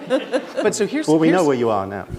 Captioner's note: laughter